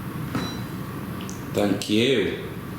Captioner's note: device beeps